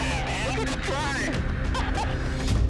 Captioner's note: laughs